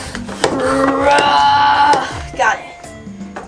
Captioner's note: pumping noise; assistant groaning